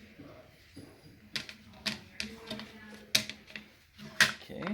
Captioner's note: plastic clattering